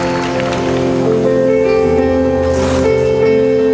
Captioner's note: applause